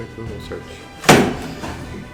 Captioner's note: thud